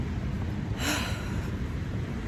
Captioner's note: sighs deeply